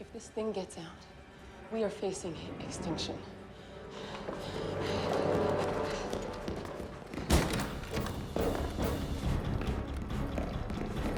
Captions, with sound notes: - If this thing gets out, we are facing extinction. (Susan panting) (footsteps tapping) (door thuds) (suspenseful music)